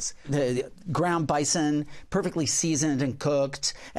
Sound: none

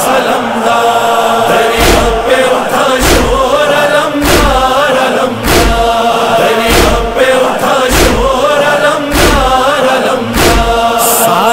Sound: chanting

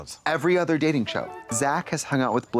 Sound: bright chime

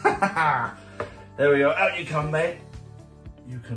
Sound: laughs

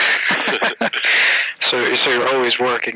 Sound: laughter

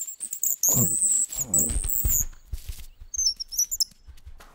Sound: fox grunting

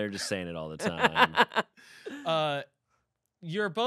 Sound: laughing

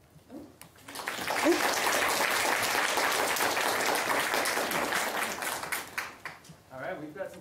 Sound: applause

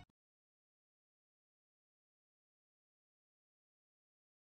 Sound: silence

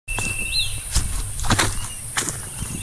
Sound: footsteps

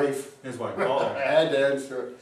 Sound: laughs

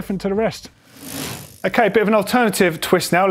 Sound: quick rattle

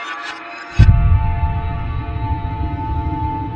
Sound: thud with echo

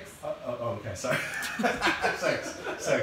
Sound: laughing

